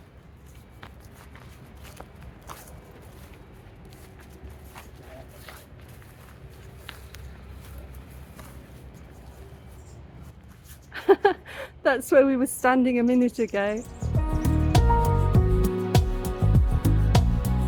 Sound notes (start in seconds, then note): 10.9 laughing; 13.8 chill music